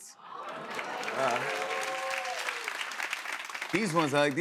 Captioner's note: cheers and applause